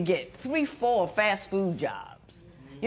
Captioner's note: none